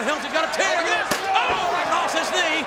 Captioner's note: chair smacks